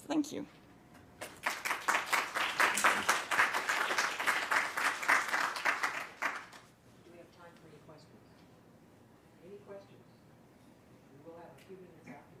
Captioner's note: applause